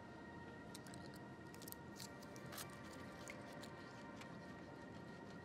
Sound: foil crinkling; calming music

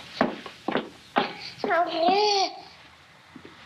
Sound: babbling

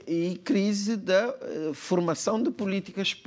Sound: speaking portuguese

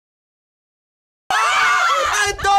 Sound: chaotic screams

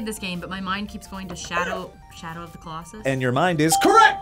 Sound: buzzer barks

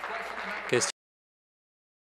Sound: applause

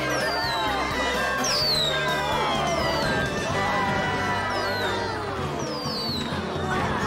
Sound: cheering; fireworks Explode

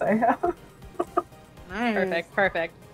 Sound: laughs

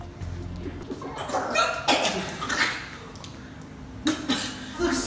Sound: vomiting

